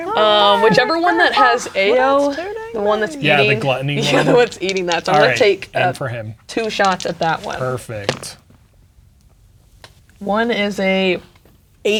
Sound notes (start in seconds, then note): 6.6 dice rattling; 6.6 dice rolling